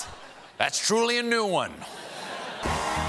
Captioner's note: laughter